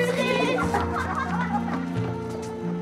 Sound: laughing

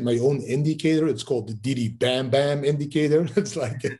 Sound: laughs

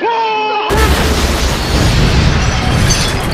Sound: explosion

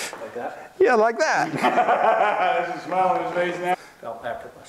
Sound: laughing

